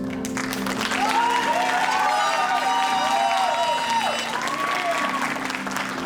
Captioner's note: audience applauding and cheering